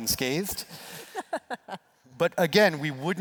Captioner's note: laughs